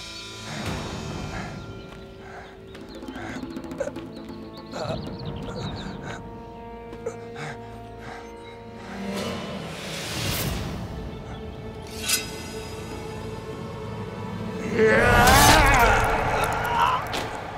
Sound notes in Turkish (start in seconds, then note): 0.3 Müzik - Gerilim; 15.7 Hançer sesi